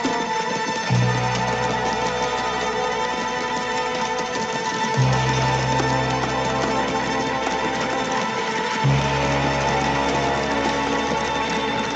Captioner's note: تصفيق